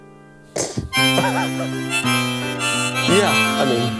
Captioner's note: laughing; harmonica playing